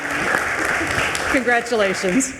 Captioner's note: attendees applauding